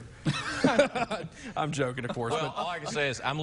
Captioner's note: laughing